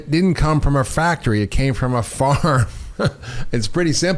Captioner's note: chuckles